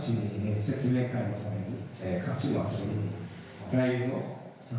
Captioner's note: speaking foreign language